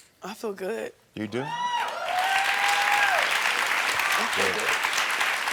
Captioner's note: audience cheering